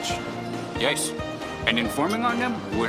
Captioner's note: Mexican accent